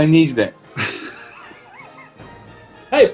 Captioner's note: chuckling